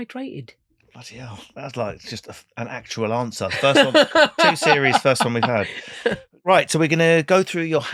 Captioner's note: laughing